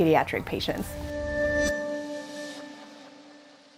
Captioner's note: woosh sound